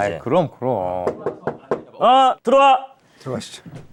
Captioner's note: a bold knock